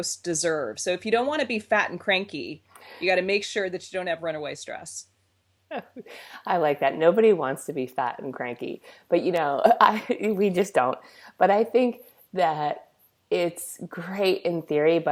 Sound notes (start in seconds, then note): 5.6 laughs